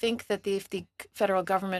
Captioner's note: speaking French